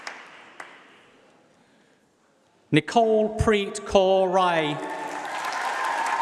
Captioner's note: applause